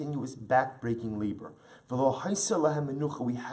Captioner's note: Hebrew